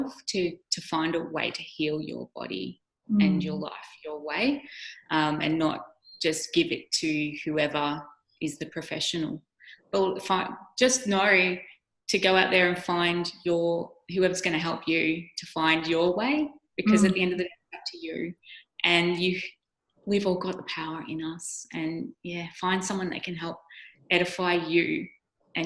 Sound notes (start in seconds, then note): 16.8 microphone cutting out